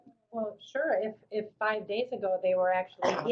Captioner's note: voiceover